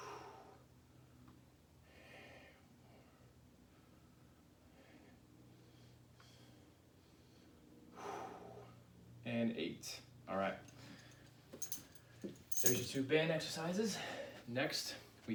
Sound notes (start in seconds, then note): 0.1 breaths; 4.6 breaths